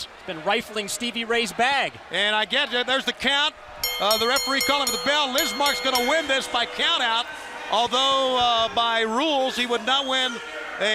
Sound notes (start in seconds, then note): 3.8 bell ringing